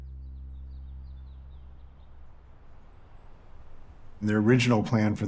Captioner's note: birds chirping